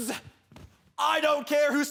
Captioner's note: thud